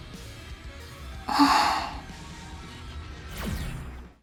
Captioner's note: sigh